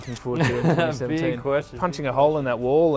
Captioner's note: laughs